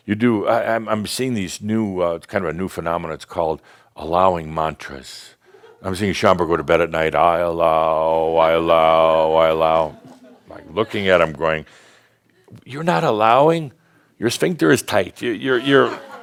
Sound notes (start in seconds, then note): 9.5 a few chuckles